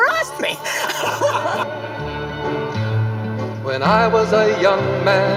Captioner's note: laughing